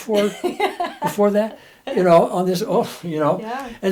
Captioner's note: laughs